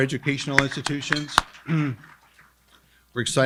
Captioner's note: applauds with crowd